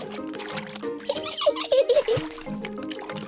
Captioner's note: giggles